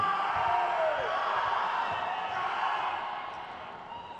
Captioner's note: crowd cheers